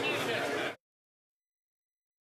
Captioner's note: speaking French